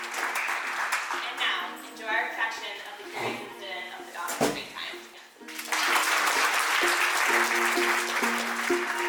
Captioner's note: applause; background Speech